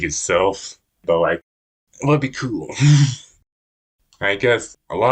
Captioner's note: laughs